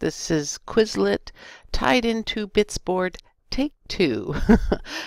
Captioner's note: laughter